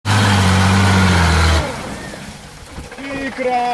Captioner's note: engine roaring; speaking foreign language